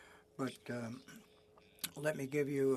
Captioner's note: speaking French